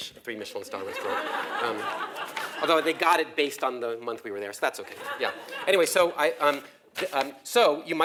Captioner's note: laugh